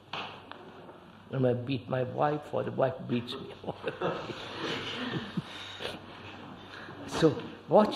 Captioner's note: laughs